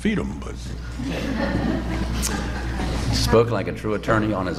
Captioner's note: laughter